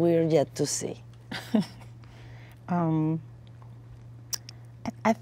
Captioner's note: chuckles